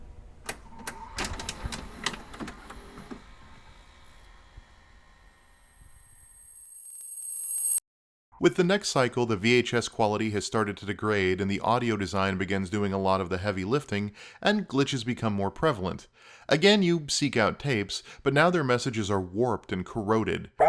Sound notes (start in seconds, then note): 0.4 VCR being loaded; 5.0 growing static ring